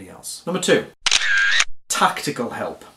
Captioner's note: camera shutter clicks